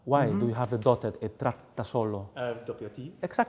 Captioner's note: speaks in foreign language